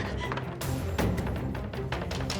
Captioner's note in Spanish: carrera y jadeos